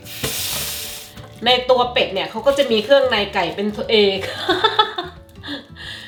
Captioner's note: laughing